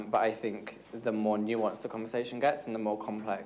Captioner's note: none